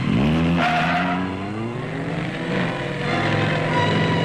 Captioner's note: engine roaring